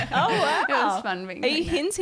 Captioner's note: all giggling